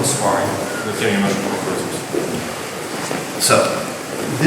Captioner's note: speaking in a foreign language